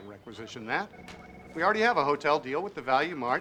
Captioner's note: shuts off engine